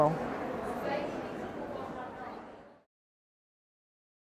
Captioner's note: people chattering